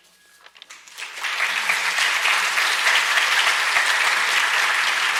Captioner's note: audience applauds